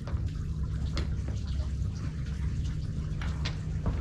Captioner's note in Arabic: الماء يقطر